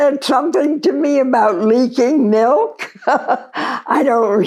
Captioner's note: laughs